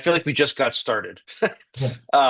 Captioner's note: laughs